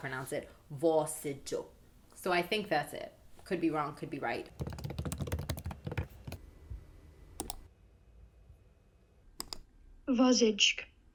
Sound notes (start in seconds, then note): 4.5 aggreessive typing sound; 7.3 mouse click sound